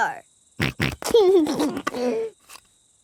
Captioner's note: snorts and laughs